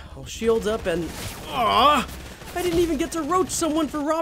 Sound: groans

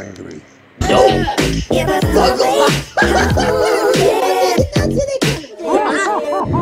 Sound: laughs

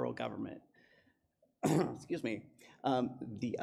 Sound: coughs

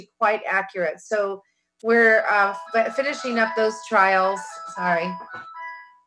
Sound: phone chiming

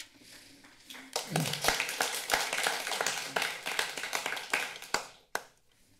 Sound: clapping hands

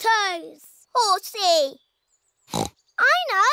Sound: oinks

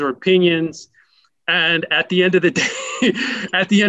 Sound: laughs

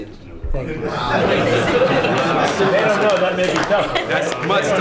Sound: applause

